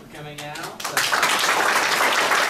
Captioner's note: audience applauds